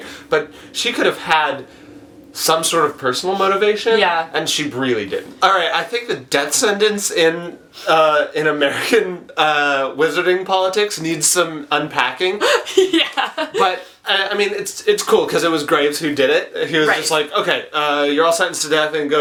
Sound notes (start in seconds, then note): 12.3 laughs